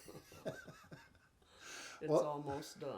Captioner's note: chuckling